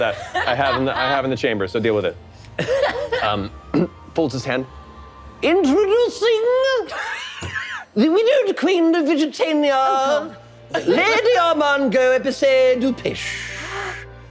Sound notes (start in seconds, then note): 2.7 laughing; 6.9 laughing